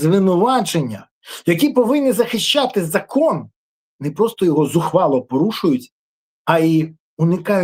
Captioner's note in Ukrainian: сопіння